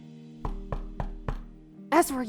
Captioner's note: knocking